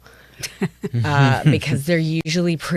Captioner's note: chuckle